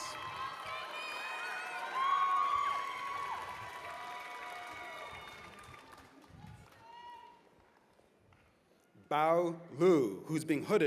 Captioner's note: cheers and applause